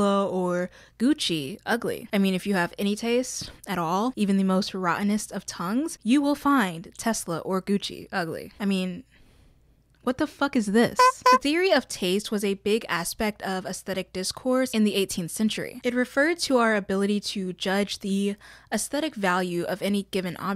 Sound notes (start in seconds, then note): 11.0 clown horn